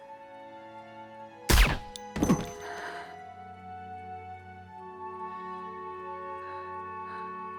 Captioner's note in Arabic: إطلاق نار; صوت ارتطام الجثة بالأرض